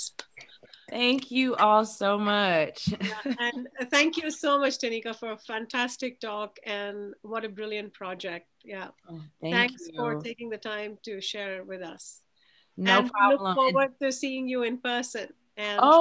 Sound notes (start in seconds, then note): 0.2 claps; 3.0 chuckles